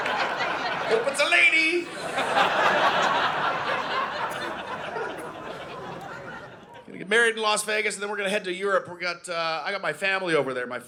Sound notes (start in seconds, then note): 1.7 audience laughing